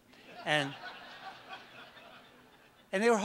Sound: audience laughs

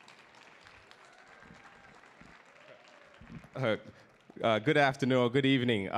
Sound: audience clapping

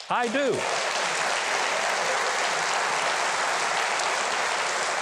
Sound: audience applauds

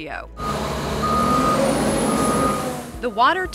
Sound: loader reversing

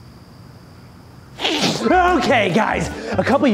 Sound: sneezes

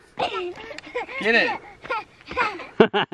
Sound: laughter

